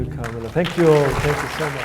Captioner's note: audience applauds